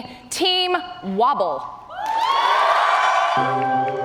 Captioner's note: cheers and applause